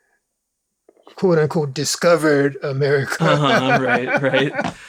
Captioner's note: laughs